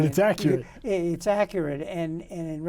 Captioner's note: men laughing